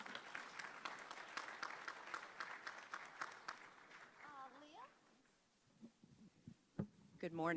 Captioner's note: applause